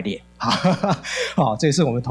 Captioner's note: laughing